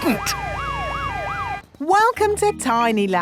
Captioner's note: sirens wailing